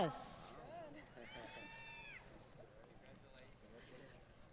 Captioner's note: applause